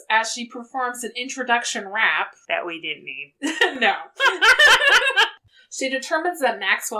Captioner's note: laughs